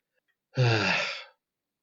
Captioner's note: long sigh